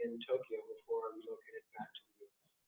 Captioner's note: distorted audio